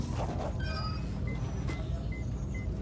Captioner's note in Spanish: pitido